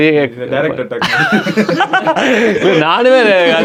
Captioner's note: group laughs